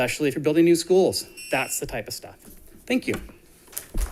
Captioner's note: buzzer buzzing